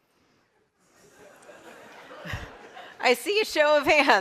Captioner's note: audience laughs